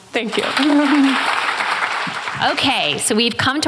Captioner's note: applause